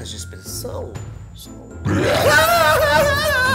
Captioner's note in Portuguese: rosnado; gritos histéricos